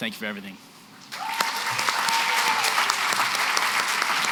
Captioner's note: applause